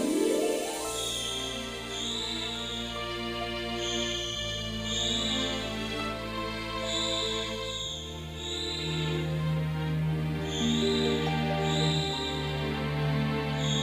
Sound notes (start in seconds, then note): 1.9 dramatic music playing; 4.1 shrieking